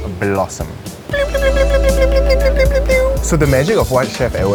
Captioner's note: flower blossoming sound effect